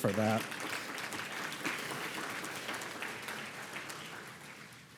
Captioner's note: audience applauding